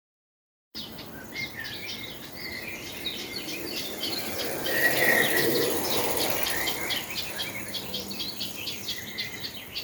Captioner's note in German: Vogelgezwitscher, Fahhradfahrer fährt vorbei